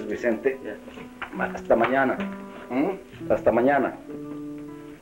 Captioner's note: Spanish spoken language